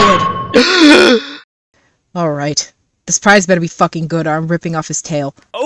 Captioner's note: dramatic gasp for air